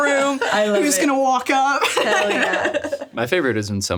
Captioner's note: laughs